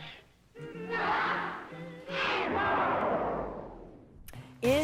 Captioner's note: big boom